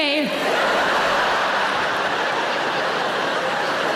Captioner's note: audience laughing